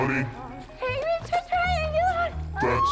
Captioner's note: moans, screams